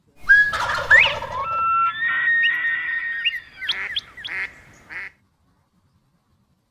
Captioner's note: bird calls